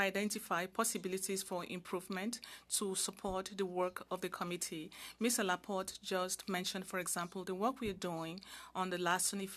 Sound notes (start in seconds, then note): 0.6 speaking French